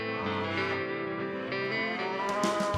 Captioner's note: cows moo